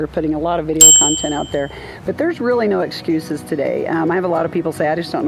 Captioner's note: ding!